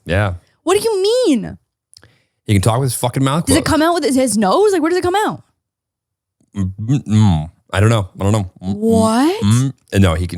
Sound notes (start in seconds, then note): 6.7 mumbling